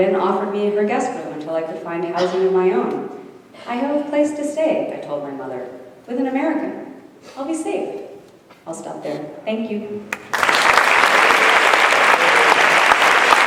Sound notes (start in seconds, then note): 10.1 audience applauding